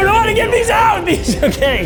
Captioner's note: laughs